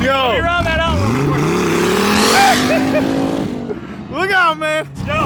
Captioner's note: engine revs up